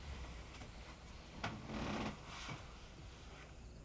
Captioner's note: crickets chirping; bed creaks; crickets chirping